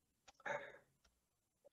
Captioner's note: sighs